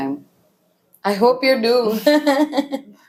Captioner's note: laughs